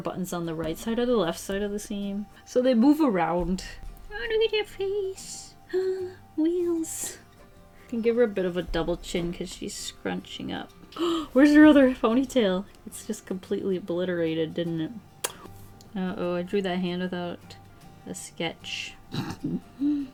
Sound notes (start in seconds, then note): 10.9 gasps; 19.1 laughs